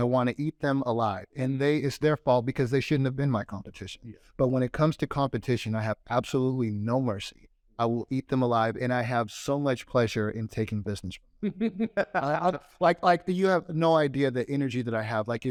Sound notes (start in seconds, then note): 11.4 laughs